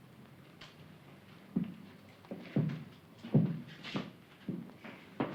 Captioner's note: footsteps leaving